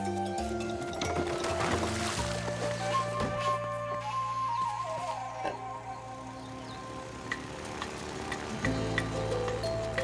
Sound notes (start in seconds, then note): 0.9 splashing; 8.5 plane rumbling